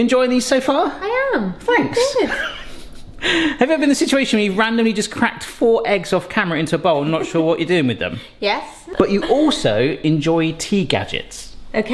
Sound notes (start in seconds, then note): 2.4 laughs; 8.9 chuckles